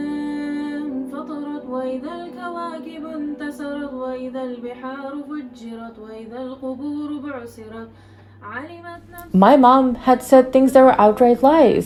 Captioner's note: reciting Quran in Arabic; reciting Quran in Arabic